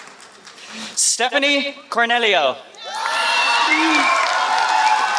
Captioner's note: applause